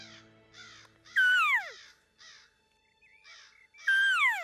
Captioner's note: hunter calls